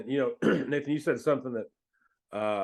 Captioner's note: clears throat